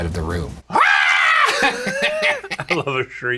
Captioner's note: Shane shrieks and laughs